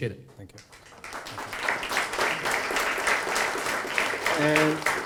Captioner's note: audience applause